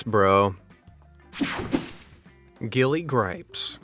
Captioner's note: whooshing sound